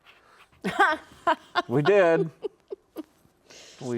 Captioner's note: laughs